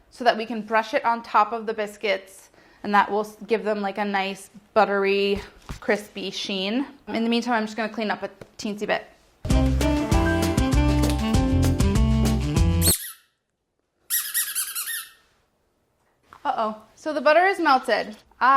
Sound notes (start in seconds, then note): 9.4 jazz music; 14.1 ball squeaking